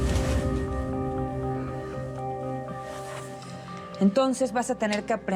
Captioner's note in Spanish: bofetada